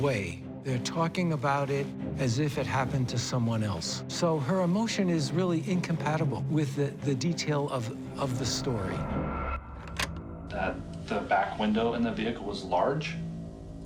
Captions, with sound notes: They're talking about it as if it happened to someone else, so her emotion is really incompatible with the detail of the story. [clicking] The back window in the vehicle was large?